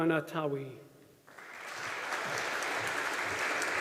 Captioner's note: audience applauding